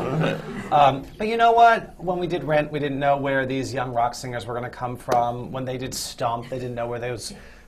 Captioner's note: laughter